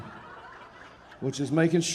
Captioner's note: audience laughing